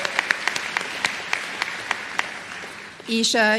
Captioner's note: applause